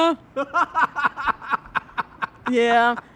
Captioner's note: interviewer laughs